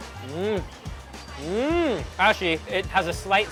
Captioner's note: moans